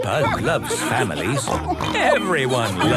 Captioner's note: snorts